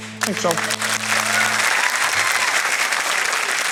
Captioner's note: applause